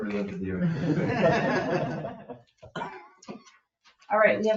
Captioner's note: group laughing